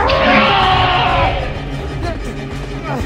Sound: Hermes roaring

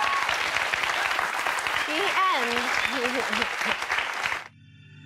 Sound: audience applause; laughs

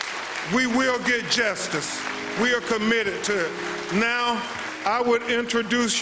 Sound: applause

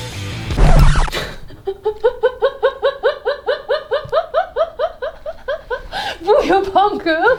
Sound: laugh

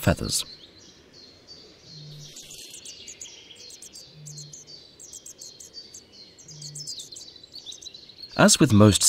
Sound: sounds of nature

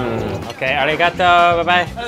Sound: speaking in foreign language

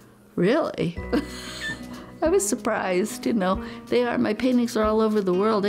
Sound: laughs

